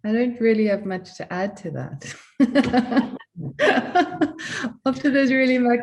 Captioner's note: laughter